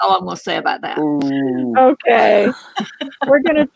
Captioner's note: boos; laughter